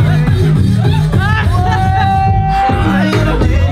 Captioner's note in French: rire